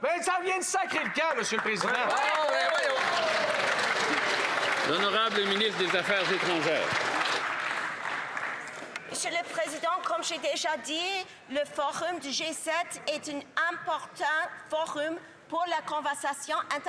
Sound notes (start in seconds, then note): 9.6 some Applause